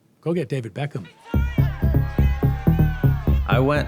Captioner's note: shouting